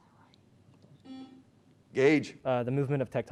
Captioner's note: beep